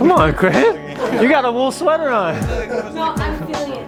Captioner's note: laughing